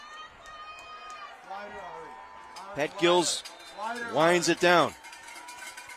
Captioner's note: applause